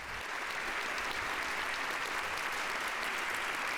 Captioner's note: applause